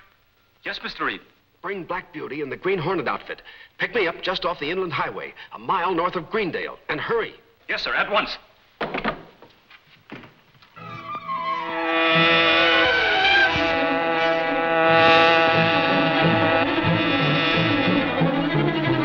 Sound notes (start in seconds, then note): 10.8 flighty, suspenseful music; 11.5 Black Beauty buzzing